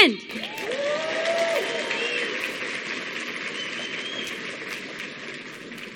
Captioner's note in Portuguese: Aplausos